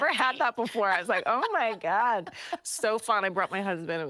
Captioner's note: laughing